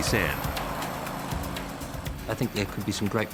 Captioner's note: airboard whirring